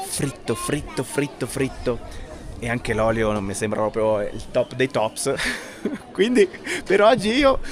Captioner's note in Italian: risate